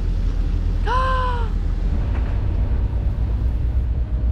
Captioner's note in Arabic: تصرخ